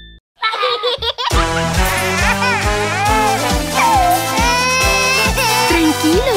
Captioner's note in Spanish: Risas y Llantos; Música Alegre